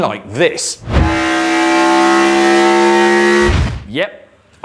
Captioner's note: car engine roaring